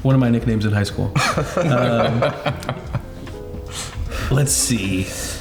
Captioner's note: laughs